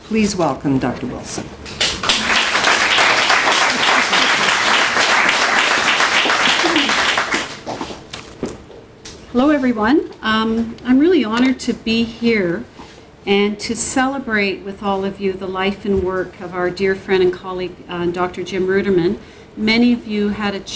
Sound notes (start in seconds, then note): 6.6 clapping